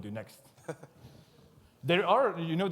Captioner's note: laughs